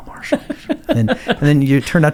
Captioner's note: laughing